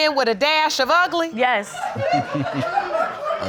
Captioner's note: audience laughing